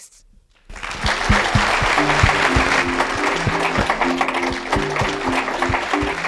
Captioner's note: applause